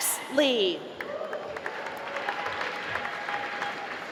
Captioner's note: applause